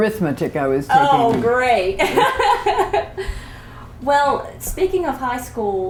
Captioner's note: laughter